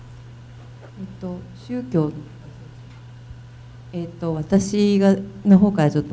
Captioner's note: speaking foreign language